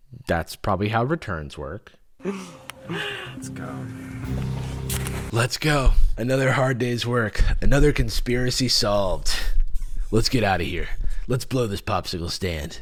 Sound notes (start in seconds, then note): 5.3 deep voice